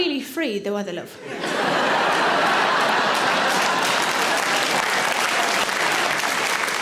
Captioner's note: audience laughing; audience applauds